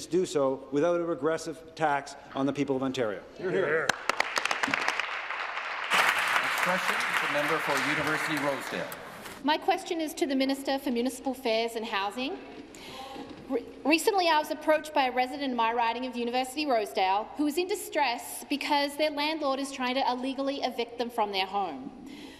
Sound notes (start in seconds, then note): 6.7 applause